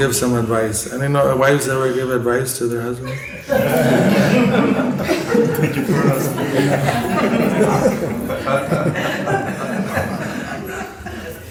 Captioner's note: laughter